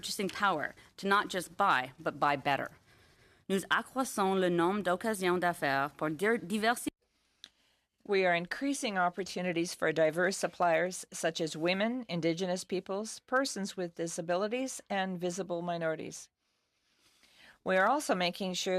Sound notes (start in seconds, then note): 6.7 speaking in French